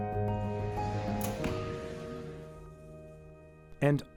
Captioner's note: arrow hitting target